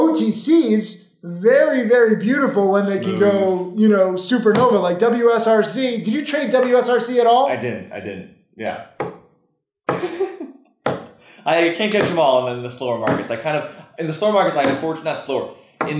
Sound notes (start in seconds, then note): 9.9 laughing